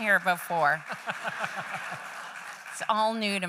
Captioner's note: laughter